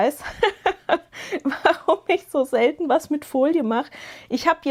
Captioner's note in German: gelächter